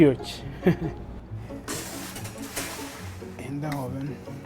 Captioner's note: chuckles